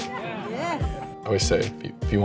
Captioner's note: crowd